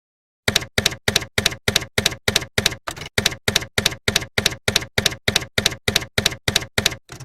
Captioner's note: typewriter keys clacking